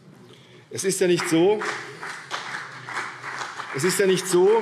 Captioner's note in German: Beifall CDU und BÜNDNIS 90/DIE GRÜNEN